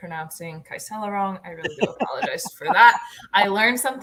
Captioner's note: laughter